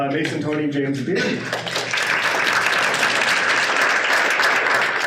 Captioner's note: applause